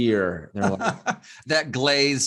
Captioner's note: laughs